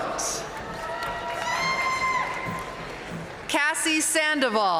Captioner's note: audience cheering and applauding